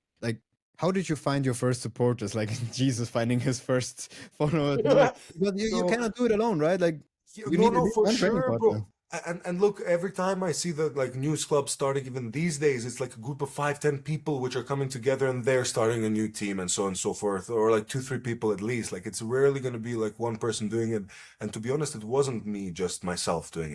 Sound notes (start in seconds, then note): 2.6 laughs